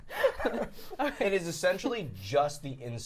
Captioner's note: laughing